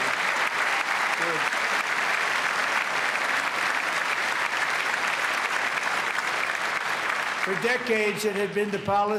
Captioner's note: applause